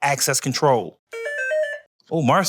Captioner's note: beeping